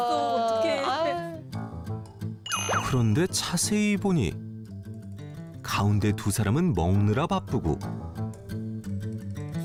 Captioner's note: voiceover